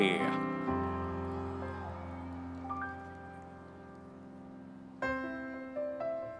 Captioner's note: audience members cheering; gentle piano music continues